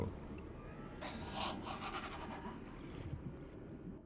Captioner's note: scary sounds